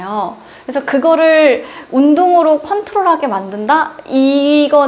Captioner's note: breathing